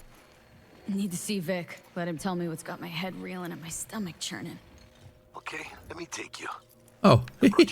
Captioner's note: laughs